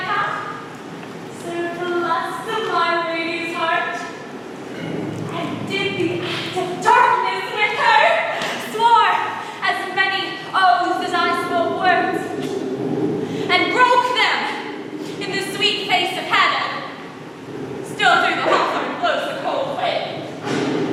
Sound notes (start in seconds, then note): 19.1 thunder rumbles